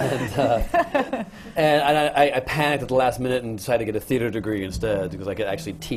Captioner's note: laughter